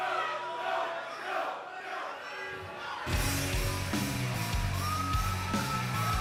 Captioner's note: fans chanting